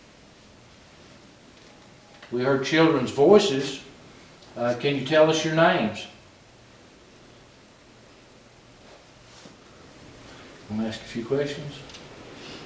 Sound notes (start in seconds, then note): none